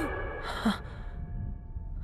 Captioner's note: gasps; sounds are distorted